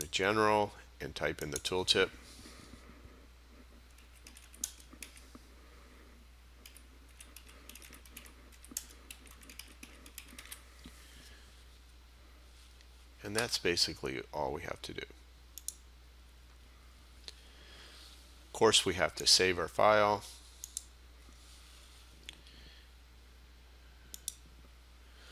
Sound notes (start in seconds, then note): 4.2 sound of typing; 15.6 sound of mouse clicking; 20.1 sound of mouse clicking